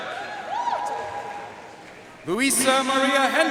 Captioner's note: audience cheering and applauding